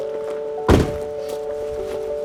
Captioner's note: ambient music; car door shuts; light ambient music